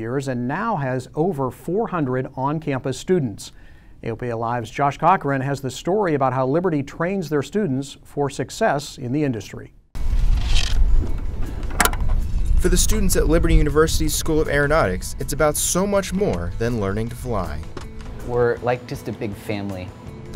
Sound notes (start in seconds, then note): 10.0 scraping